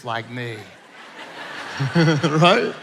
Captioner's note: everyone laughing